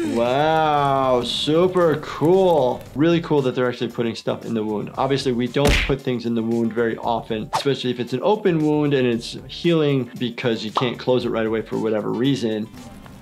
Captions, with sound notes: Wow! Super cool! Really cool that they're actually putting stuff in the wound. Obviously we don't put things in (smacks) the wound very often. Especially if it's an open wound and it's healing because you can't close it right away for whatever reason.